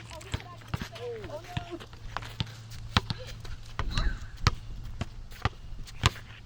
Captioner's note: people chattering; ball thunking